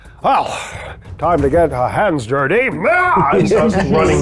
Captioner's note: yells